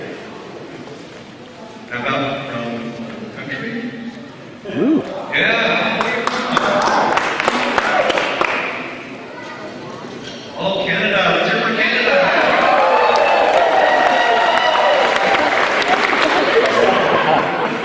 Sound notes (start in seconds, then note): 6.0 applause; 12.1 cheering